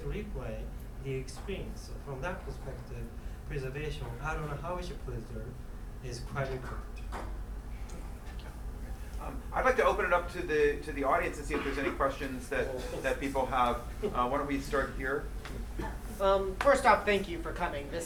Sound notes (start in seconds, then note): 11.4 coughing